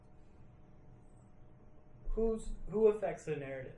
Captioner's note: none